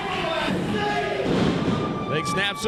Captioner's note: audience rambling